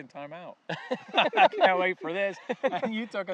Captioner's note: laughing